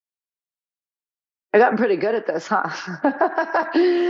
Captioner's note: laughing